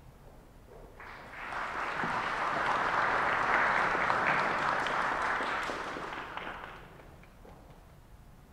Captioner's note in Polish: oklaski